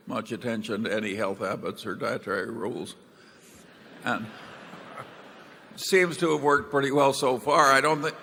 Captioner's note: laughter